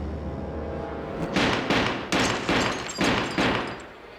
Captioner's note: gunshots